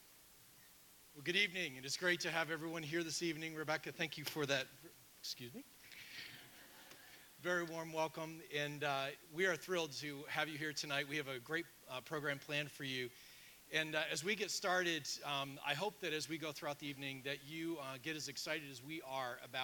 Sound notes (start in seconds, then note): 6.2 audience laughing